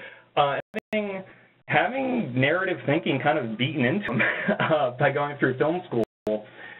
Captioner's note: chuckle